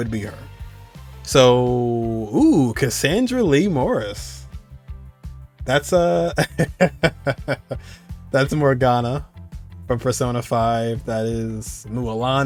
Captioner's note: chuckle